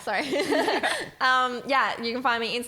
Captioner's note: laughing